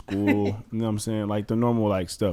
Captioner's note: laughs